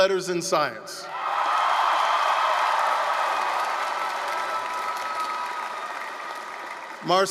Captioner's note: applause, cheering